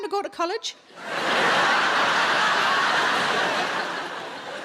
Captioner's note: audience laughing